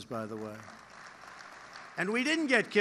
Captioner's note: applause